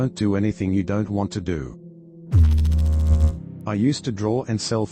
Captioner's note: electrical noise